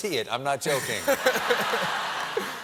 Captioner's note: laughter